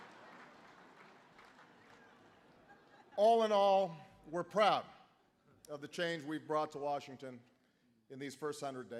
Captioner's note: laughter